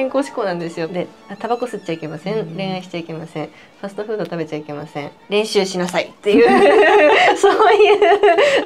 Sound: laughs

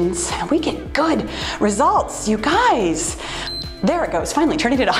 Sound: timer beeps

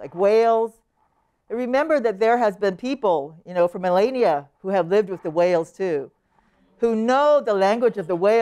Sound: none

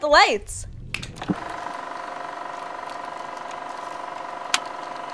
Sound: snaps fingers; movie reel spinning

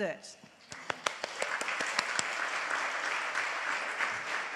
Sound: audience applauds

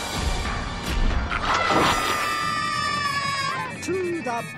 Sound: screaming

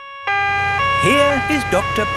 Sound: siren wailing

